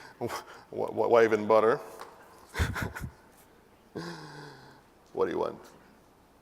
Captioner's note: laugh